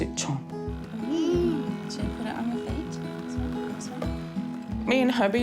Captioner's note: hums